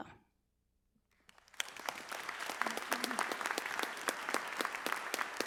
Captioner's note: audience applauds